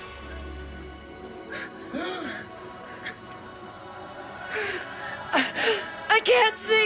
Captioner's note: nuns gasping over eerie electronic music; gasps